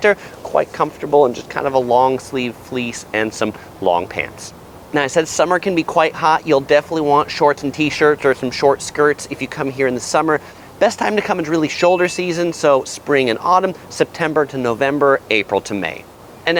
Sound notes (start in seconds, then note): 11.9 bell dings